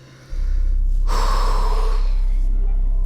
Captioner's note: exhales deeply